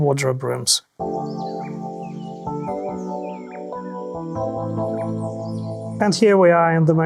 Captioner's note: birds chirping